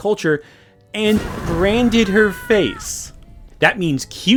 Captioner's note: woman screaming